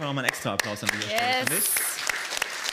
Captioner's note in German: Applaus